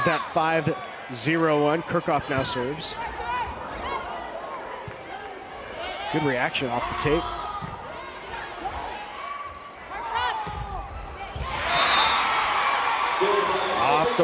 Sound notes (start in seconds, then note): 4.9 players yelling; 11.2 crowd and players cheering; 11.4 players yelling